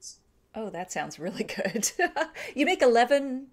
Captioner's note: laughs